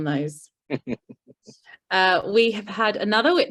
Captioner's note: chuckles